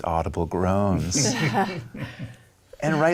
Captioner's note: laughing